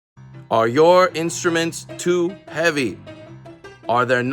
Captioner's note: terrible New York accent